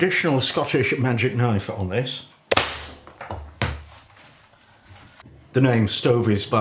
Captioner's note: blam!